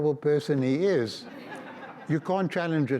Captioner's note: audience laughs